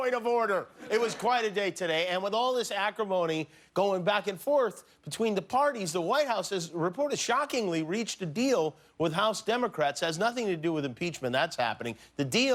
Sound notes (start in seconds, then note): 0.8 laughter